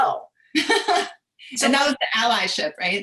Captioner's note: laughing